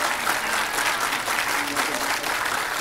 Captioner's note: applause